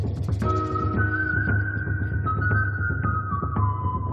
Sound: whistling begins

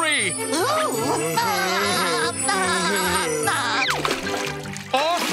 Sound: laughing

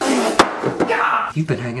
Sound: spits; screams

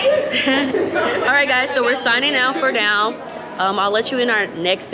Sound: laugh

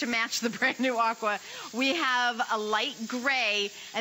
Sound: laughter

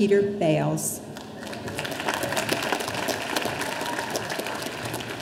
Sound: audience applauding

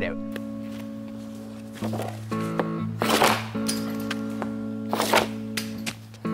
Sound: mellow guitar music; pucks sliding and slapping

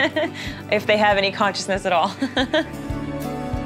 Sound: chuckles; chuckling; easy music

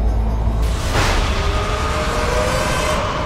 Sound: thundering

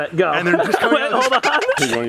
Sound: laughs

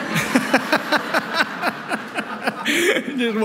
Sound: laughter

